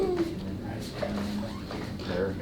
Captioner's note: baby cooing